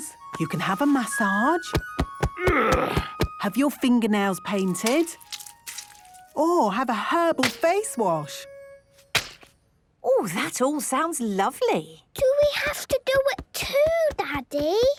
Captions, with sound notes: You can have a massage... - (thumping) - (moaning) - Have your fingernails painted... Or have a herbal face wash! - Oh! That all sounds lovely! - Do we have to do it too, Daddy?